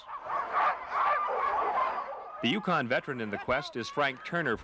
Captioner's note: dogs barking